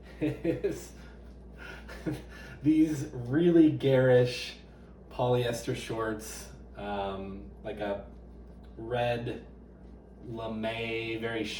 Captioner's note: laughing